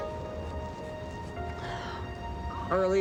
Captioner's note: coughs; sighs